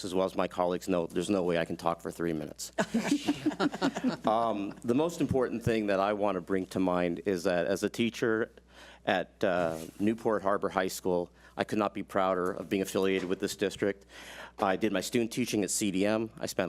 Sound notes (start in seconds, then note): 2.8 board laughs